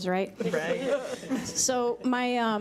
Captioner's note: laughing